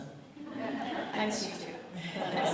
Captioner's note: audience laughs